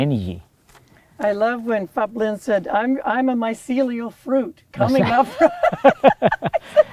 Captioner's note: laughter